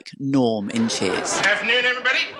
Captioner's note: laughing